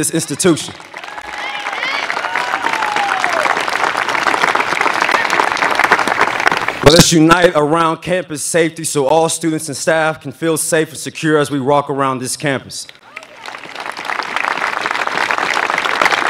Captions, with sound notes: >> Let us unite around the need for need-based scholarships to help our students pay for the ever-increaseing cost of attending this institution. [ Applause ] >> Let us unite around campus safety so all students and staff